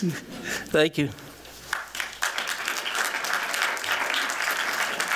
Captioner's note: applause